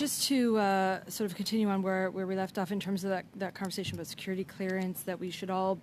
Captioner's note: speaking French